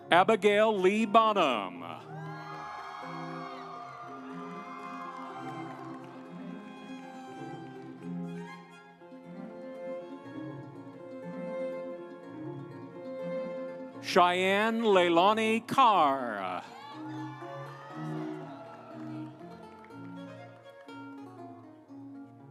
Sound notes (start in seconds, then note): 2.0 audience cheering; 5.3 instrumental music; 15.8 audience cheering; 19.1 instrumental music